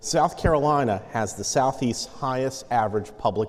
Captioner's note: none